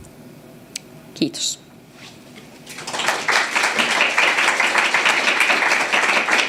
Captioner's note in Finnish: aplodeja